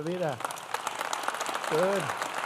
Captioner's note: applause